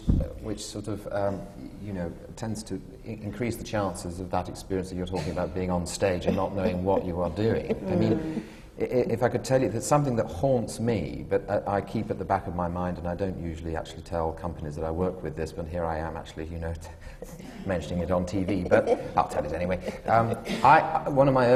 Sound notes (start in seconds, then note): 18.2 laughs